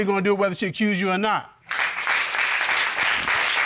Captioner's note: applause